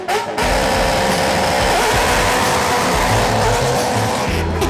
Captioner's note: very loud car revving